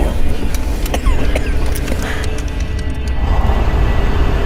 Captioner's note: coughing